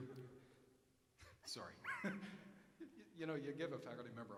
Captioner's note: chuckling